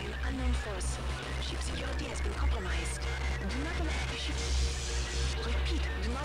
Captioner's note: electrical interference